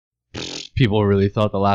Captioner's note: pfft